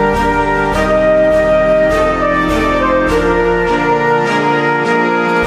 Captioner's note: none